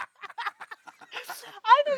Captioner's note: laughing